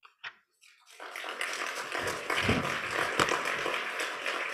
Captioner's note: applause